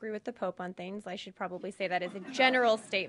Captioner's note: laughter